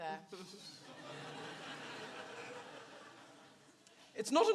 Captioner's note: audience laughs